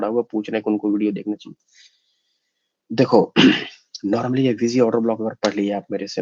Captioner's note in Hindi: गला साफ़ करने की आवाज़